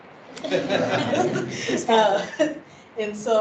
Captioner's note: laughing